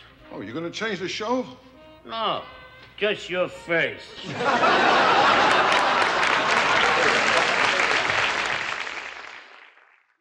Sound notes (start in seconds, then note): 4.2 audience laughs and claps